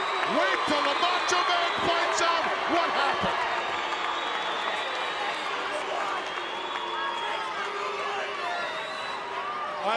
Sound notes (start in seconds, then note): 3.6 crowd cheering